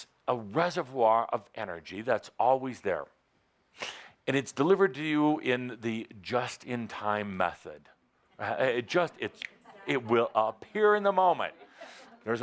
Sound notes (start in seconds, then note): 9.4 Adamus snaps his finger